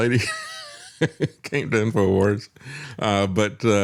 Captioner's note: laughs